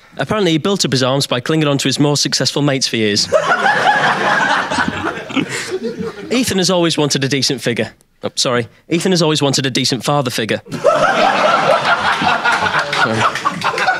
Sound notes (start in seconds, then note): 3.2 audience laughing; 10.7 audience laughing